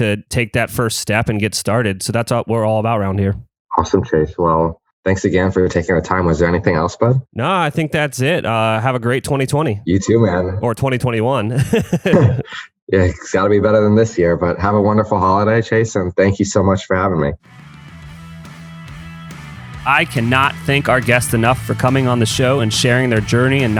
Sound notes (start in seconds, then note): 11.4 laughs